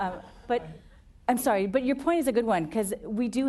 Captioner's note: laughter